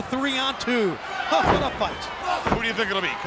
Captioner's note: crowd chanting; body slamming